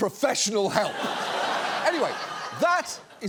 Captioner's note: audience laughs